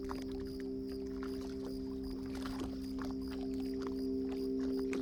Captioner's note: crickets chirping